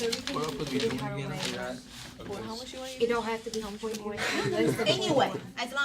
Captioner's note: students murmur